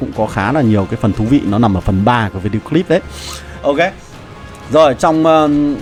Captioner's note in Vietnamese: khịt mũi